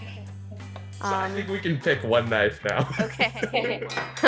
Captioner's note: laughs